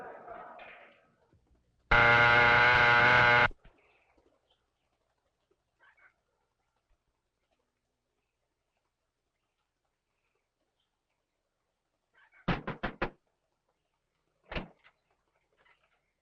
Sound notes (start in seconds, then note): 1.9 doorbell buzzing; 12.5 Carl knocking